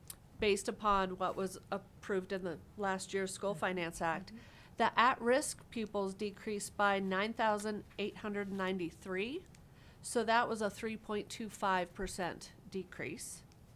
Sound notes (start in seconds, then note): none